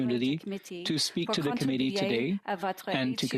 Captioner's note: speaking French